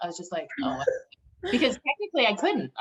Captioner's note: chuckles